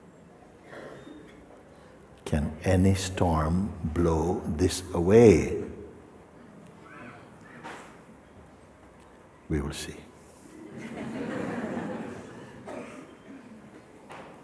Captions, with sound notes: Can any storm blow this away? We will see. [laughter]